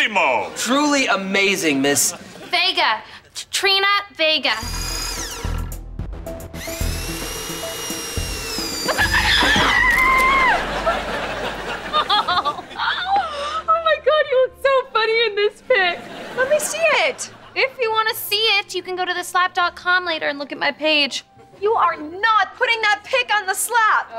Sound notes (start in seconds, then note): 9.0 screaming; 11.7 laughing